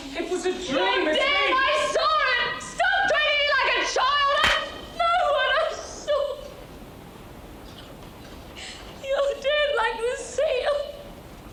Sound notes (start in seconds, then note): 4.4 slap clapping